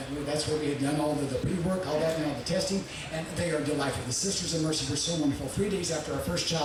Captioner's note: none